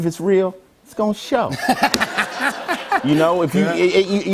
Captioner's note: laughter